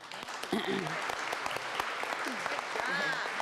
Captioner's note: applause